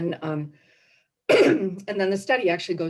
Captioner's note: coughs